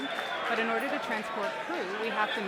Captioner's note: cheers and applause